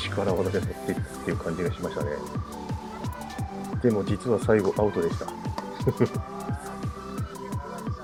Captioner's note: laughs